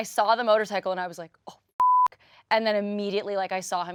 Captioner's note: beep